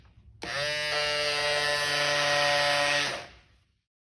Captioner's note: electric motor noises